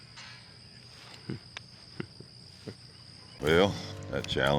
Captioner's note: chuckles